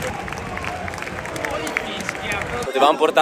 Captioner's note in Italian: Applauso